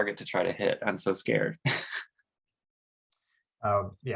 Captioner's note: chuckles